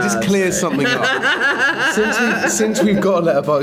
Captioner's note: Rian laughs